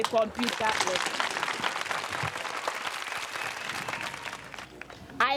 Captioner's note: crowd clapping